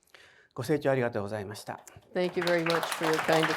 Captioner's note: speaking in foreign language